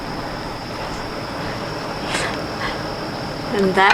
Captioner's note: laughs lightly